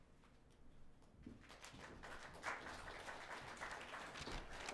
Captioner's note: audience applauds